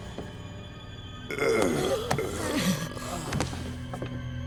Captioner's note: groaning